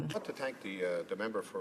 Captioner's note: speaking French